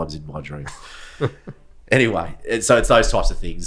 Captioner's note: laughing